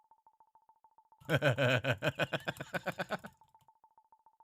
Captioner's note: mischievous chuckle intensifies